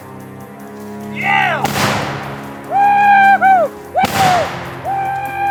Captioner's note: gun banging